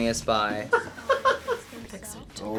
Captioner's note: laughs